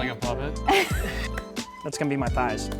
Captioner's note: woman laughs; hands clapping